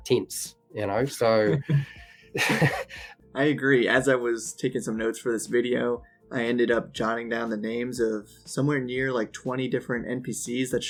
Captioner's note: laughs